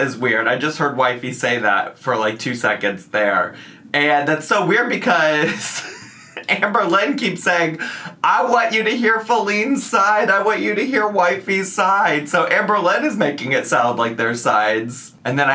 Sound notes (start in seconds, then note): 5.4 laughs